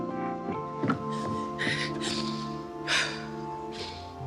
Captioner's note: Efa sniffs and sobs